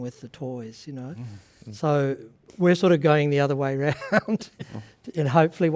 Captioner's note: laughs